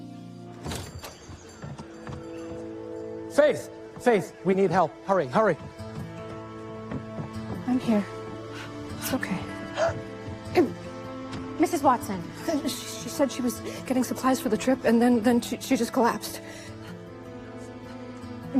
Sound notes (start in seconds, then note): 8.2 troubled breathing